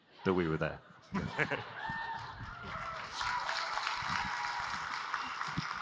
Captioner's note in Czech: Potlesk